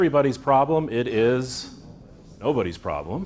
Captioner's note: audience in unison